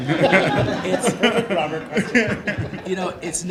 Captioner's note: laughing